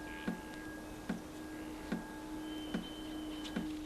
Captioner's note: steady dripping